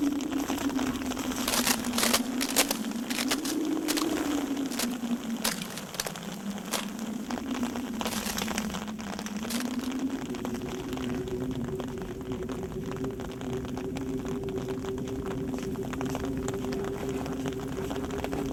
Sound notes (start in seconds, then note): 0.2 ice cracking; 3.8 footsteps crunching; 11.4 wind howling